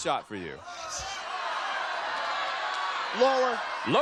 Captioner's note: crowd exclaiming